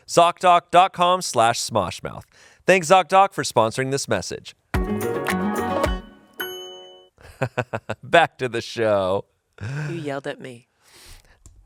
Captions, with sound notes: Zocdoc.com/smoshmouth. Thanks Zocdoc for sponsoring this message. (bright music) (laughs) Back to the show. - You yelled at me.